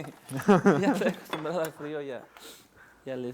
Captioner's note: ríen